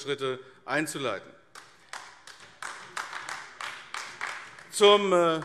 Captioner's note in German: Beifall AfD